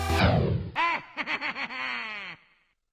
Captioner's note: Smug Wario Laughter